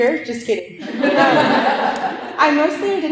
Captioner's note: laughter